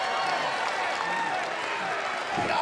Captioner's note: cheers & applause